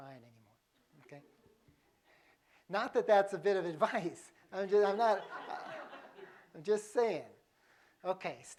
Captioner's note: laughter